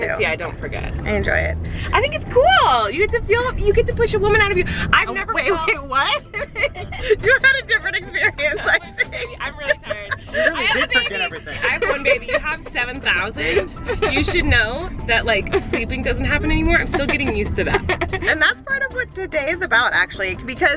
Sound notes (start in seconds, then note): 10.7 laughing